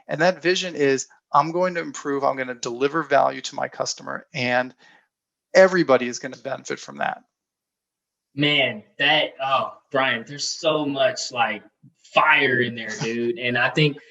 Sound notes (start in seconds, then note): 12.2 chuckles